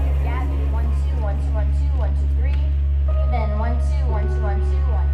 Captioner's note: inspiring music; technician sound checking